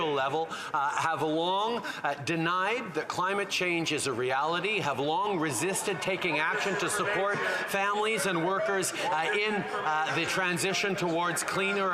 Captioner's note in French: voix de l'interprète